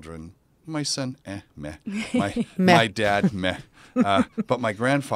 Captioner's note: laugh